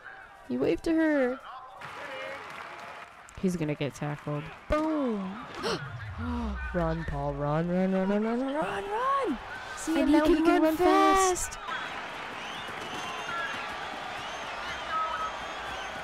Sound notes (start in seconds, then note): 5.6 gasp; 12.1 crowd cheering